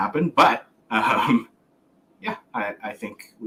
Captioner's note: laughs